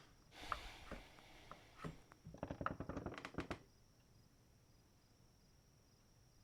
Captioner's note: wood Floor Creaking